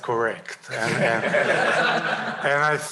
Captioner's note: laughter